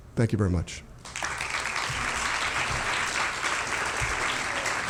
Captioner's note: applause